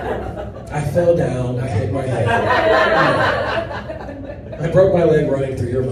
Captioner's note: audience laughs